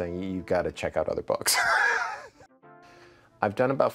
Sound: chuckles

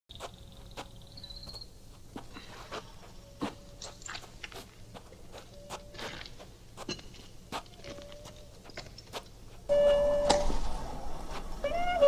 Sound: footsteps and metal squeaking

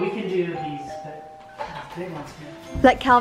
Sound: doorbell rings

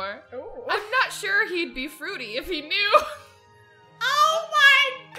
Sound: laughs

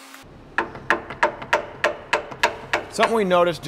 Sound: hammer banging

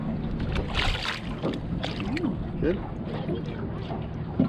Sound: fish splashing

